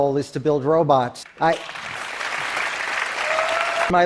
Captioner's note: applause